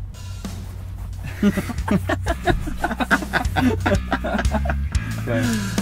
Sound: laughter

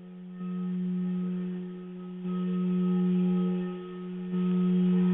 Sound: vibrating tone

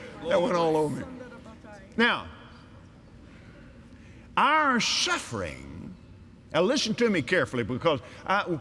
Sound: audience Agrees

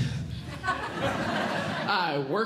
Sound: audience Laughing

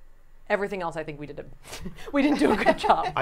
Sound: laughing

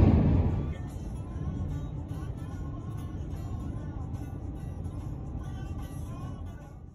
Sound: radio playing

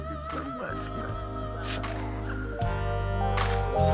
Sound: sobbing; soothing music

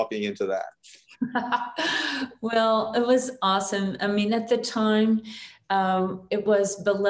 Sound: chuckles

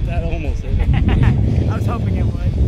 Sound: laughs

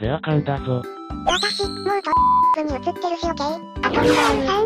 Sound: beep

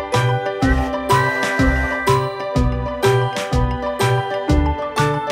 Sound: train whistles; upbeat music

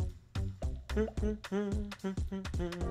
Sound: humming

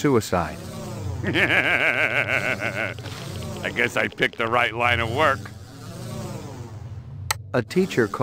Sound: laughing

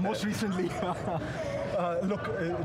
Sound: laughter

